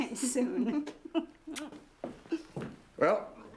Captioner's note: laughs